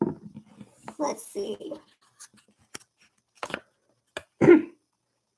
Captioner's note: clears throat